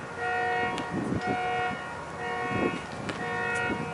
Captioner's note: wind howling